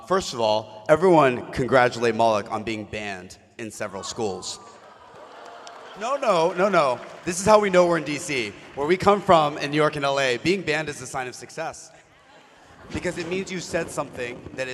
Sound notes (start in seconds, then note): 4.8 mixed applause